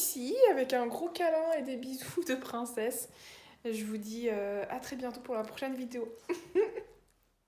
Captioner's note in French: rire; rires